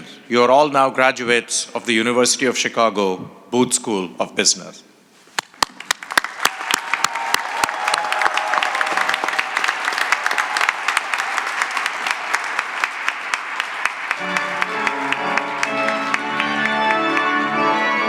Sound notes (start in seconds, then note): 5.5 cheering and applause; 13.9 organ music